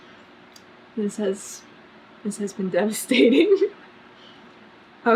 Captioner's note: laughs